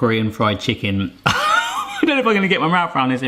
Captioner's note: nervous laugher